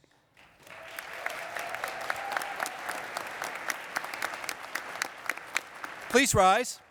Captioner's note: cheering and applause